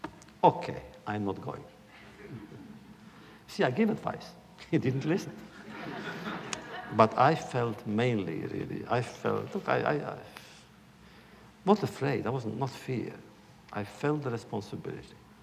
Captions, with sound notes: ‘Okay, I am not going.’” You see, I give him advice. He didn’t listen. (laughter) But I felt mainly, really, I felt -- not afraid, it was not fear – I felt a responsibility.